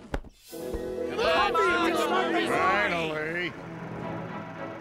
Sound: cheering

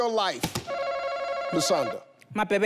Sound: buzzer rings

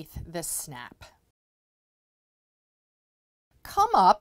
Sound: no Sound Present

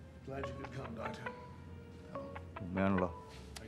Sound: incoming call

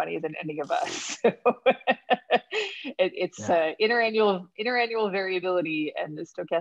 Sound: laughs

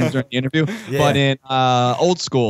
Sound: laughter

